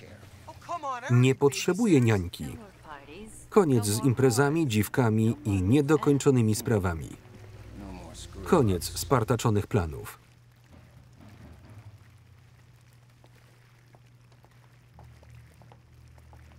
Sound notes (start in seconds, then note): 5.6 chuckles